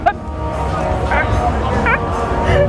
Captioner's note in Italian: Risate